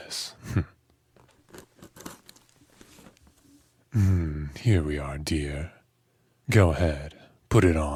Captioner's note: box movement